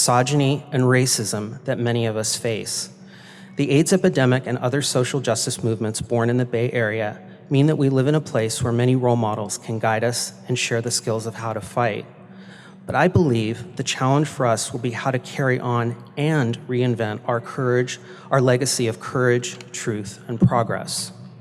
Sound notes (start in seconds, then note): none